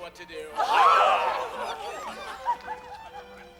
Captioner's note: chorus cheers